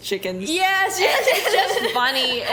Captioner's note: laughs